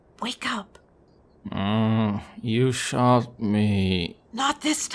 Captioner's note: groaning